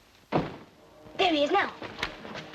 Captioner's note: door thuds open